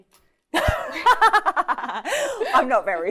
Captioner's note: laughing